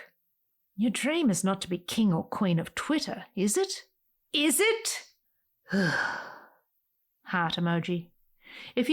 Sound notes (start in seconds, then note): 5.6 sigh